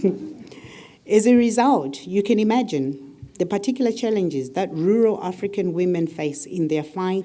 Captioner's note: laugh